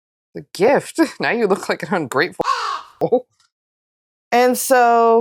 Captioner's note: caw